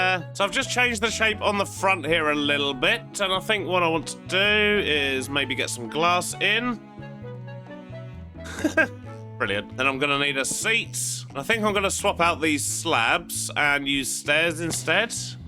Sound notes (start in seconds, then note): 8.4 laughs